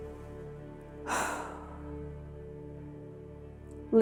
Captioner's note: exhaling